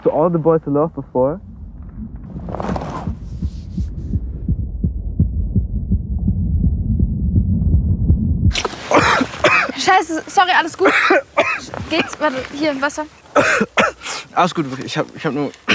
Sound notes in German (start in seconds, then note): 0.1 gedämpft; 8.6 Husten; 13.3 Husten